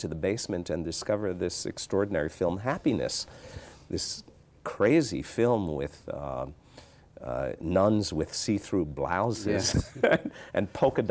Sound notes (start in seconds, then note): 9.5 laughs